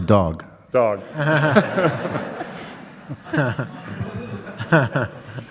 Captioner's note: audience laughs